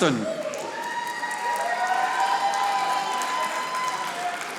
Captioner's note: audience applauding